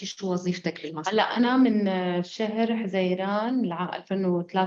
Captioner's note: speaking arabic